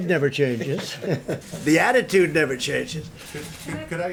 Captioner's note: laughs